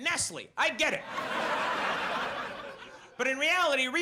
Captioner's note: audience laughs